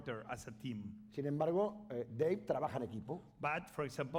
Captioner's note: speaking spanish